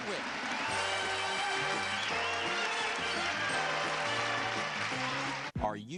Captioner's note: applause